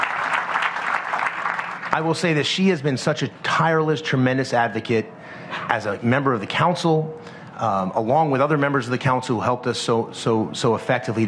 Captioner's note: applause